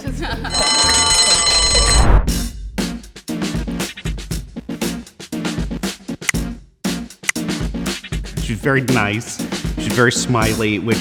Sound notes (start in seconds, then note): 0.5 bell ringing; 2.5 synth music